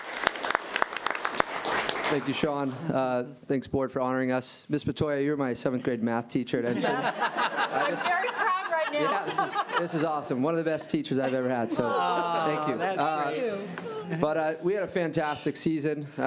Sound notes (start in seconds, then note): 6.7 laughing